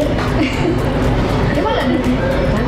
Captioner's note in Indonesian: Ketawa